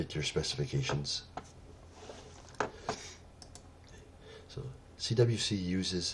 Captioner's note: pause